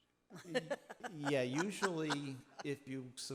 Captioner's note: laughing